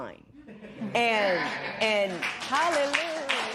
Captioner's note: applause